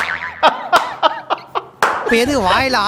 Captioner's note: man laughs